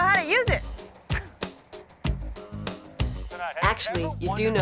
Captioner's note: scoffs